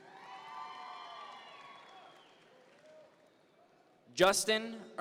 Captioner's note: audience members cheer